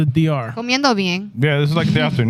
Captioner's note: speaking In Foreign Language